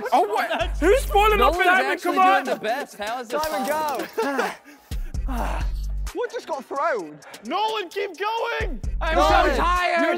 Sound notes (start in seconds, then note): 3.8 contestant laughing and panting